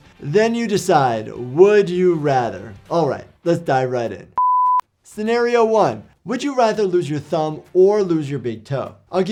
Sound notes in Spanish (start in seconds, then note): 4.4 pitido de pantalla